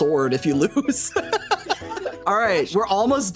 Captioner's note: laughing